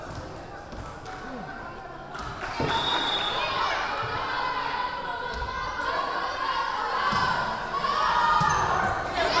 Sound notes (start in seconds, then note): 2.7 whistle blowing; 6.4 yelling